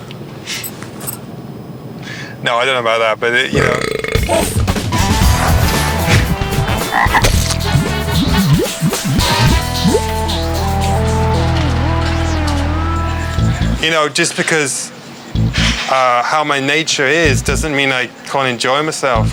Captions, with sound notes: No, I don't know about that. But, you know ... (upbeat music) (frog croaking) You know, just because how my nature is, doesn't mean I can't enjoy myself.